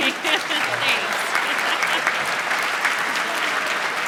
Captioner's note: applause